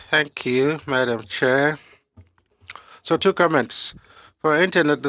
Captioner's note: speaking French